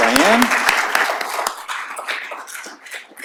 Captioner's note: applause